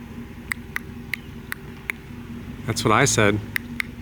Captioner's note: makes clicking noise